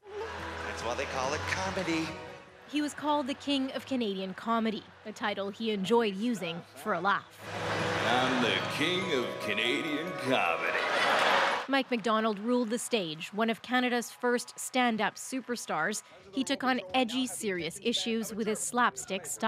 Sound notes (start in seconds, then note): 12.6 laughter